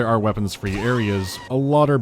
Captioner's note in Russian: крик Марва